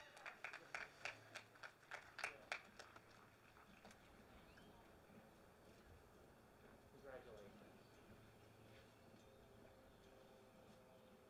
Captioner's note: applause and cheering